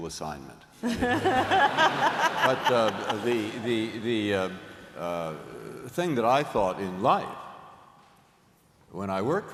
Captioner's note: laughter